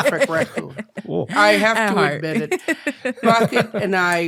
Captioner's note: laughing